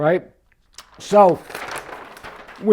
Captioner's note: paper rustling